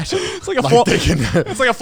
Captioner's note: chuckles